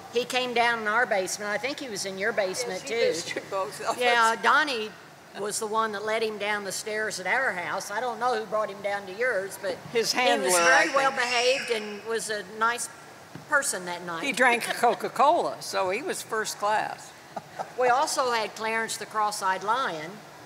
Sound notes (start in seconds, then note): 13.7 chuckles; 17.3 laughs